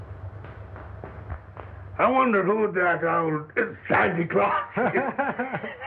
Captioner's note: laughing